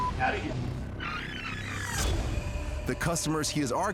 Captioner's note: tape rewinding